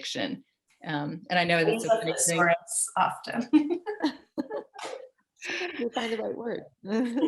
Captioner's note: laughter